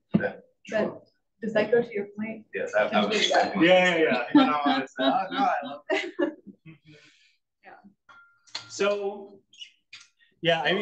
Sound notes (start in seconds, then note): 3.0 all laugh